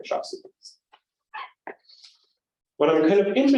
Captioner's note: squeak noise